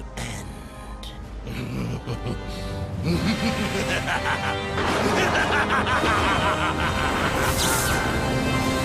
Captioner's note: maniacal laughter